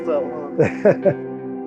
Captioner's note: laughing